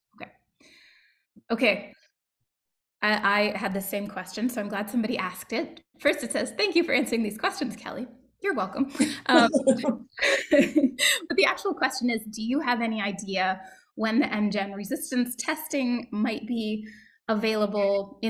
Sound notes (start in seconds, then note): 9.0 chuckling